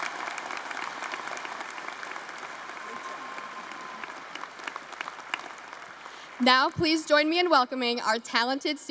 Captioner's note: applause